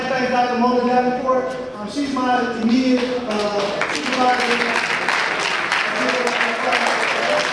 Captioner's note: audience applause